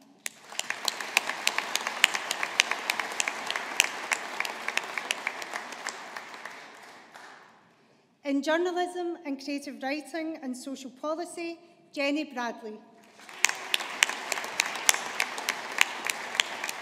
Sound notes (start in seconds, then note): 0.2 audience applauding; 13.1 audience applauding